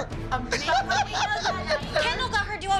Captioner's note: laughs